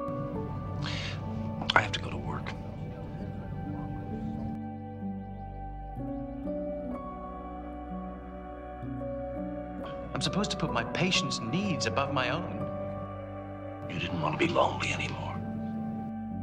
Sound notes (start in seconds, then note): 10.5 echos